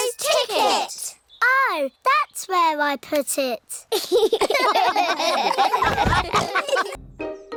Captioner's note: all laugh